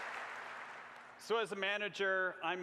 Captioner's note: applause